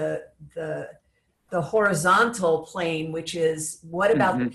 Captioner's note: laughs